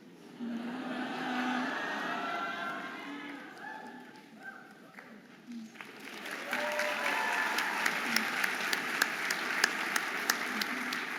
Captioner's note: audience applauding